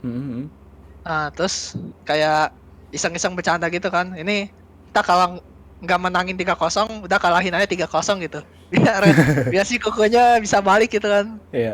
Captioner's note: laugh